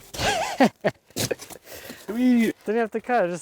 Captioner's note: laughing